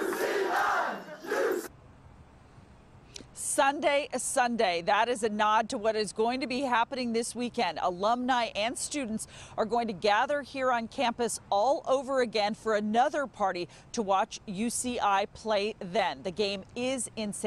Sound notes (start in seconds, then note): 2.0 cheering